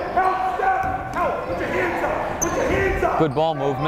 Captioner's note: yelling